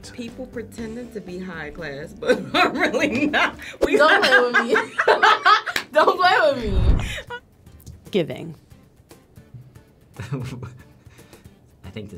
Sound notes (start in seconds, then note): 2.2 chuckles; 5.4 laughs; 5.7 claps; 10.2 laughs